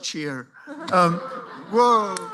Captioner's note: laughter